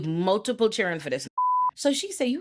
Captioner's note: beep